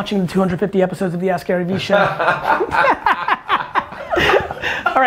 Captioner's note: group laughter